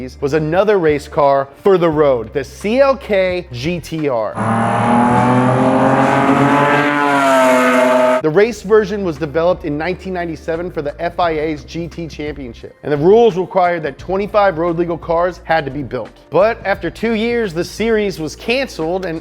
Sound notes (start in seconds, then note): 4.3 engine accelerating